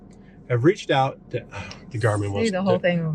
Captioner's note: sighs